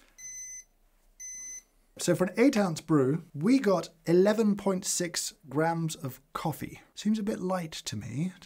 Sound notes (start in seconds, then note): 1.2 beep 1; 1.2 beep 2